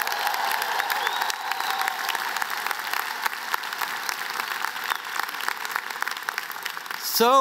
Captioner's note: applause, cheers